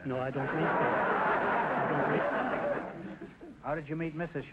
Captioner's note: audience laughter